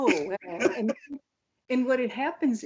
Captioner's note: laughs